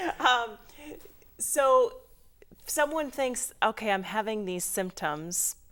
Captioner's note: laughing